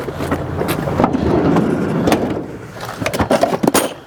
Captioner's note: metal clanging; door slides open; metal clanging